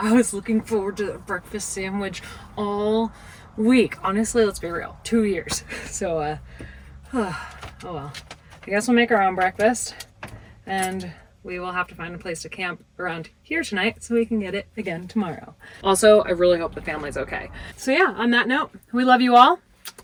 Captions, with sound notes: I was looking forward to that breakfast sandwich all week. Honestly, let's be real, two years. So, (sighs) oh well, I guess we'll make our own breakfast, and we will have to find a place to camp around here tonight so we can get it again tomorrow. Also, I really hope the family's okay. So, yeah, on that note, we love you all,